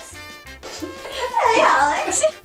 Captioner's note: laughs